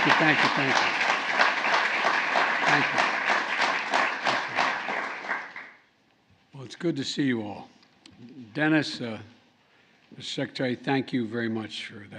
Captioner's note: applause